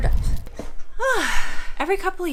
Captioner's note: sighs